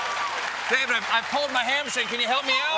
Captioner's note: cheers and applause